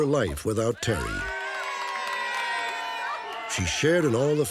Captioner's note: applause